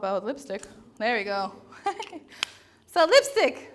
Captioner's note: laughs